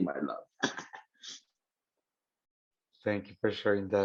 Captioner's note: chuckling